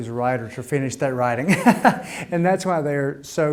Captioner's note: laughing